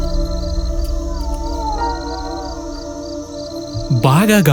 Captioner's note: screams in distance